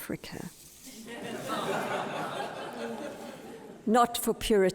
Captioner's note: audience laughs